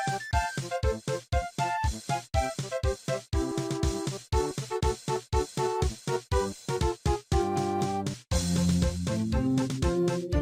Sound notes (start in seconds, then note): none